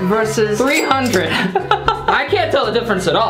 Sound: laughs

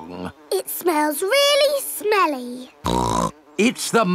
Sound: snorts

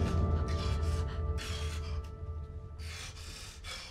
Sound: gasping

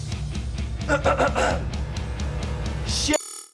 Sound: clears throat

